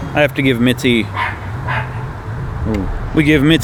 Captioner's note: dog barking in distance